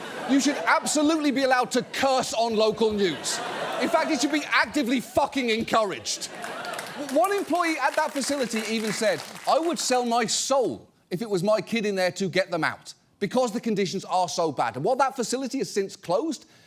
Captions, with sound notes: you should absolutely be allowed to curse -on local news. -(AUDIENCE LAUGHS) In fact, you should be actively fucking encouraged. One employee at that facility even said, "I would sell my soul, if it was my kid in there, to get them out because the conditions are so bad." And while that facility has since closed,